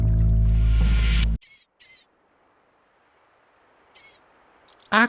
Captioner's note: seaside ambience